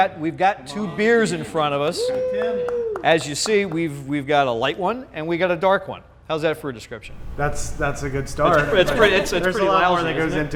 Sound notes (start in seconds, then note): 1.9 hands clap applause